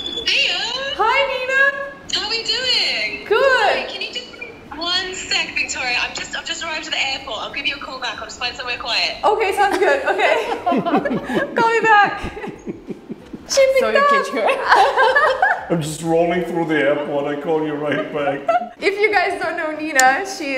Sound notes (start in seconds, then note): 15.0 laughs